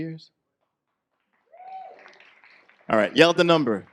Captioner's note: light applause